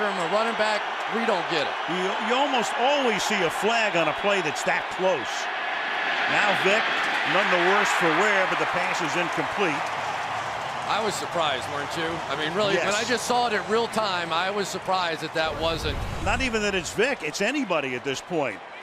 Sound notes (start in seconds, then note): 4.1 cheering